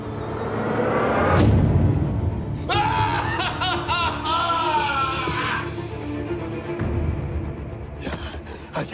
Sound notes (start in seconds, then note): 2.6 screams